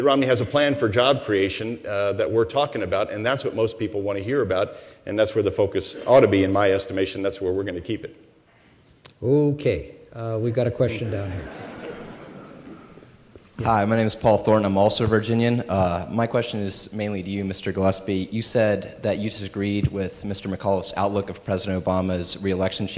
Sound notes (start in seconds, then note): 11.0 laughter